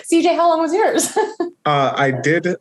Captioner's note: chuckles